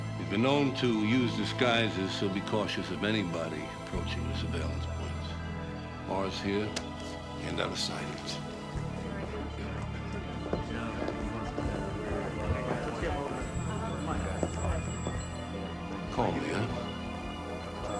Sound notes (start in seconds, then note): 9.4 officers murmur